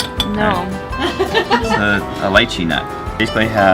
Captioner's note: laughing